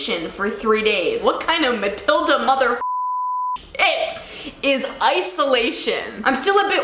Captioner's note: beeping